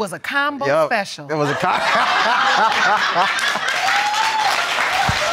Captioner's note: laughing; audience cheering